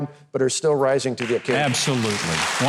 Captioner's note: applause drowns out speaker